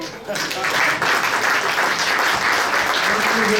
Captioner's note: audience applauds